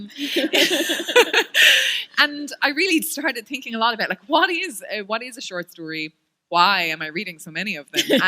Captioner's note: laughter